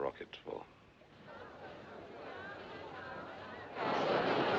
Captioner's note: Passageiros tagarelando